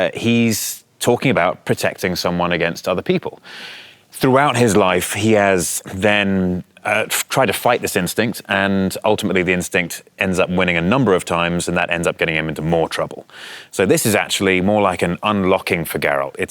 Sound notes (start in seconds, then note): none